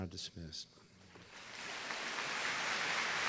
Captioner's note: applause